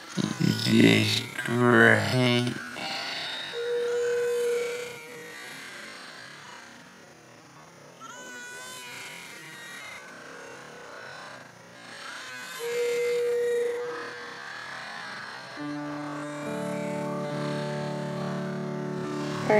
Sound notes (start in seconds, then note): 2.7 Lilo and stitch, brother bear, barbie Mattel doll crying continues